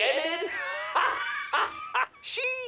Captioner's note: deranged laughter